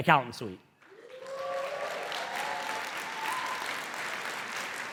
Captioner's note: audience applauding